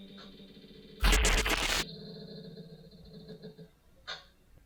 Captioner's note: static buzzing